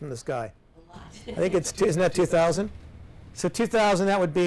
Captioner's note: laughs